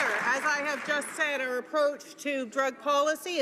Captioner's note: some Applause